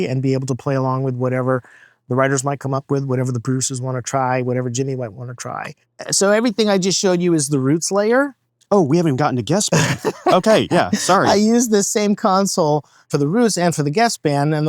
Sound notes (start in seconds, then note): 9.7 laughing